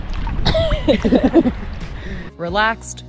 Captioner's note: laughing